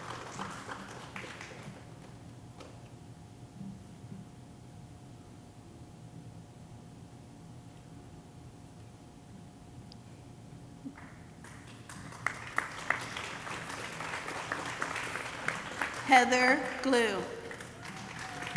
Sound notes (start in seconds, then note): 11.4 audience applauding